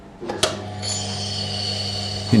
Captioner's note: whirring, grinding